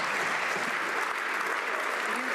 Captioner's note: some Applause